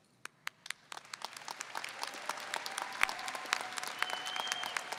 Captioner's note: audience applauding